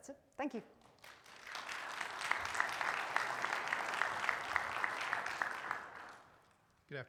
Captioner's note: audience applaud